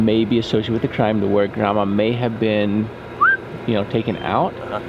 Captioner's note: whistles